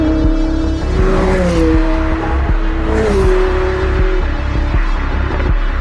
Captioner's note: engine revving